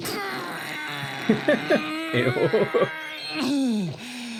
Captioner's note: laughing